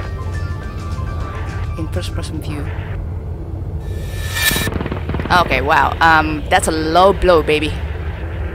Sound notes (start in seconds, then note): 5.0 Sentry shot